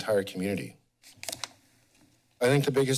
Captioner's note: pause